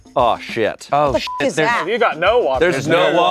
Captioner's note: beep